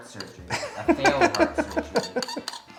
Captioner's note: laughs